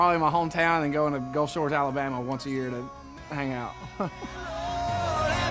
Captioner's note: laughing